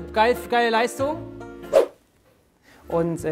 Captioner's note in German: Swoosh